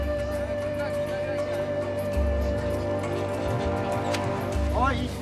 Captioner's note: chattering Continues